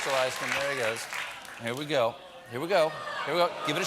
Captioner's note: applause